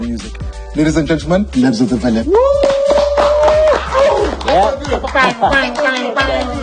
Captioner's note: cheering and clapping